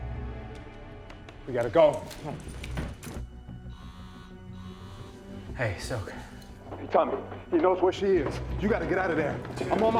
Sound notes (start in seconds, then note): 3.6 phone vibrates